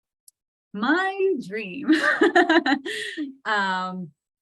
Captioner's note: laughs